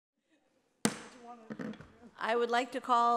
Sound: gavel banging

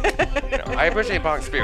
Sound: laughing

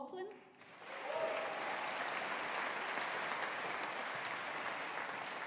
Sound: audience applauding

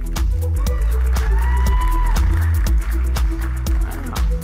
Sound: audience claps and cheers

